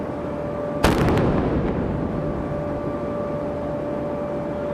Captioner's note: cannon firing